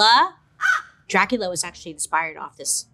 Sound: bird caws

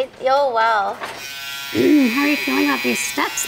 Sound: clippers vibrating

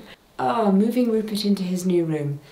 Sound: none

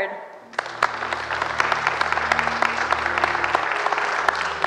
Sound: crowd applauds

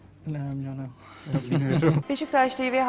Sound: laughs

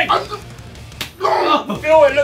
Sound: JJ grunting

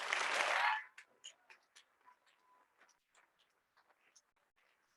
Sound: audience clapping

